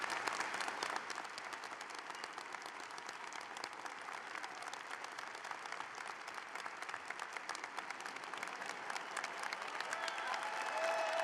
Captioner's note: applause